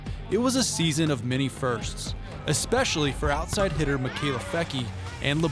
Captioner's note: none